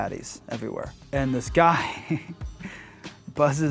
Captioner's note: laughing